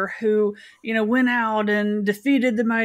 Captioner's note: none